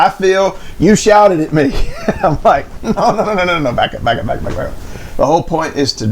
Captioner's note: laughing